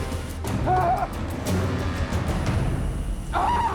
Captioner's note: Loki growls; Eddie screams